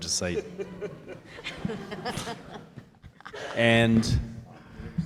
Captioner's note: audience laughing